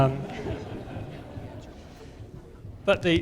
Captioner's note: laughter